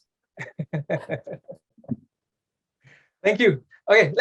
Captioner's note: chuckles softly